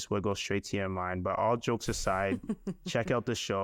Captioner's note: chuckling